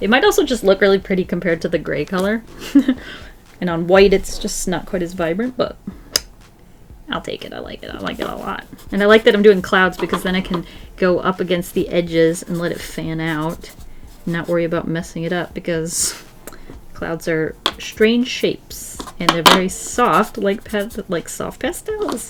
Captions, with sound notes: It might also just look really pretty compared to the gray color [Laughs] and on white it's just not quite as vibrant, but I'll take it. I like it. I like it a lot and I like that I'm doing clouds because then I can go up against the edges and let it fan out and not worry about messing it up because clouds are strange shapes and they're very soft, like soft pastels!